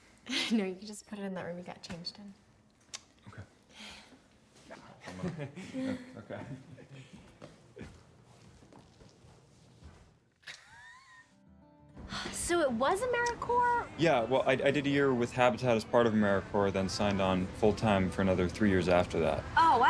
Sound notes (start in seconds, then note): 10.4 Carrie laughs